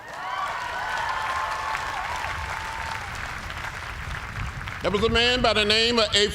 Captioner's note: cheers and applause